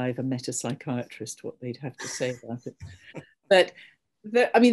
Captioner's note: laughs